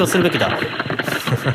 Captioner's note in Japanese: 走る音